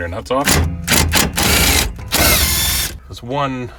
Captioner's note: drill torquing